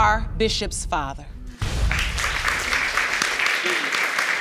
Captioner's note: audience applauds